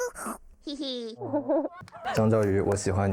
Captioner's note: chuckles